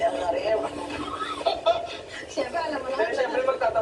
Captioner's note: laughing the reactions